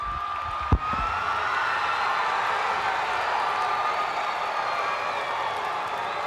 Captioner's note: audience applauding and cheering